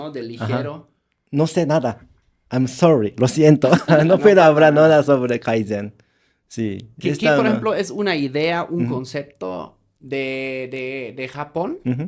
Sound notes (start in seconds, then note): 6.6 laughter